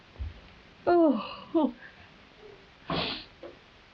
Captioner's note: cries